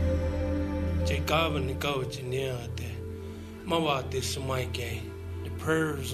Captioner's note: member speaking in foreign language